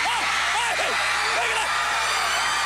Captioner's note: crowd cheering